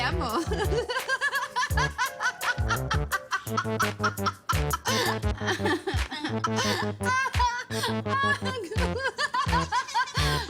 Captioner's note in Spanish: Carcajadas